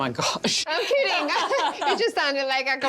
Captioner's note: laughs